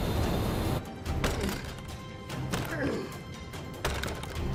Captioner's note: grunting